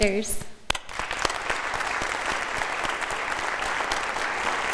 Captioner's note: audience applauding